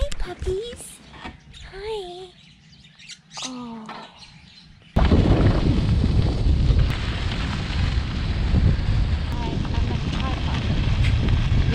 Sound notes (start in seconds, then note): 4.1 wind blowing; 5.1 tyres crunching